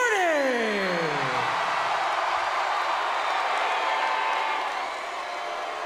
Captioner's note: audience cheering and clapping